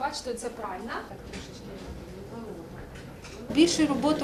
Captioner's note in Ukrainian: Шум пральних машин